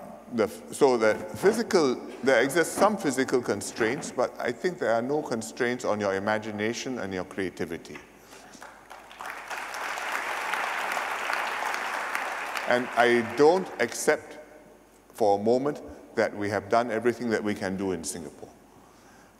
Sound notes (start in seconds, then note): 8.3 applause